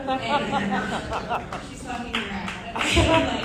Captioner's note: audience laughing